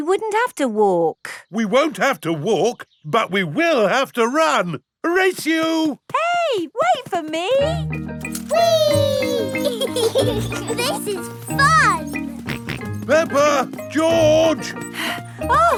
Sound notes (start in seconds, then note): 8.6 both laughing; 12.5 george snorts; 14.2 panting